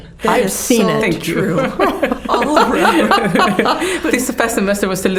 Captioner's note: all laughing